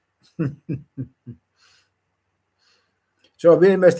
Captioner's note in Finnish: naurua